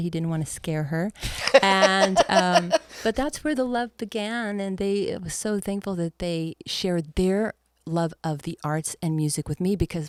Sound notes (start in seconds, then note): 1.3 laughs